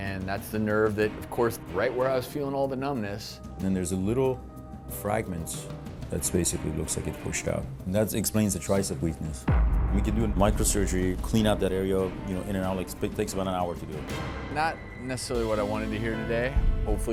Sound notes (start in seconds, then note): 9.5 loud thud